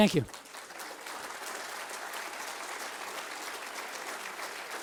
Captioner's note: audience applauds